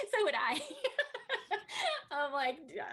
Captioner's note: Tui laughs